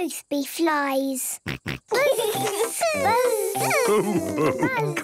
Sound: both buzzing

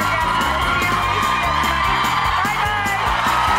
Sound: loud audience cheering

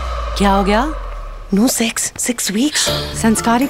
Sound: sighs

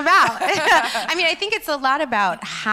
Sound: laughs

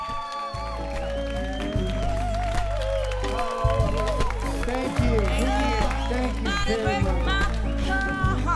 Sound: applause

